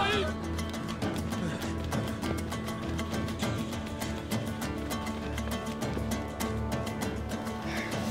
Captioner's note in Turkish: Ayak sesleri